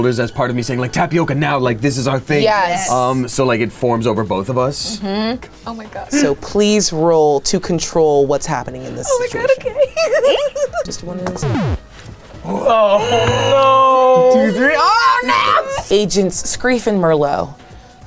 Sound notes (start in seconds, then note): 9.3 giggling; 11.4 whines